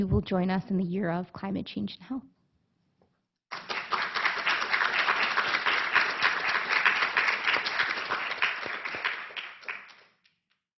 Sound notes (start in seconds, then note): 3.5 applause